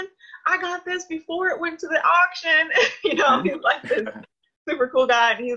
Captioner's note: laughs